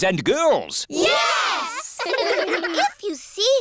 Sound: giggling

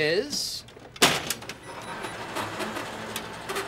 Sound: beeping, whirring

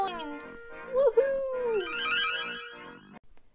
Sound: sparkly sound effect

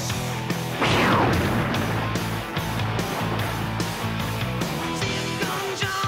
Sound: thunder booms

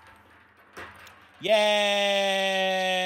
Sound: Beanz rattling

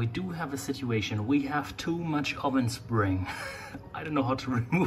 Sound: laughs

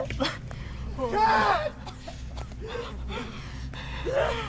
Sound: crying/shock/panic

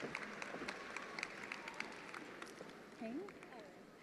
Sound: attendees applauding

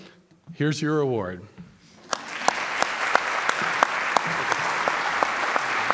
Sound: audience applauds

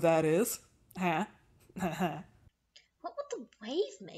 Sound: Rowan giggles awkwardly

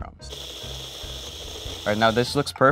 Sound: machine whirring

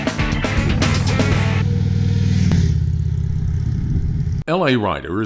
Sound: motorcycle engines rumbling

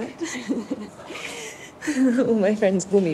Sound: laughter

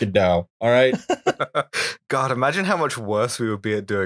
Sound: laughter

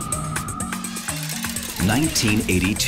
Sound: whirring

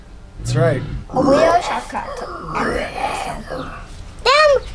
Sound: growls

